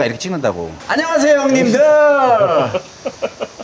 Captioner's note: surprised